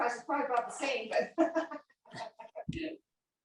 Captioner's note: chatter